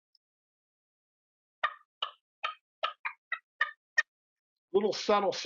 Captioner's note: turkey call sounds